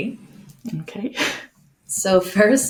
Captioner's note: chuckles